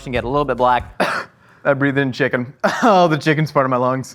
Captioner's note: coughs